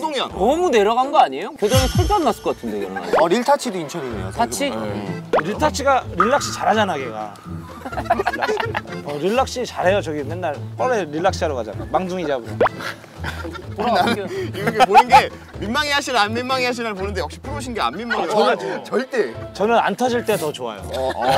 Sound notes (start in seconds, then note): 7.5 laughing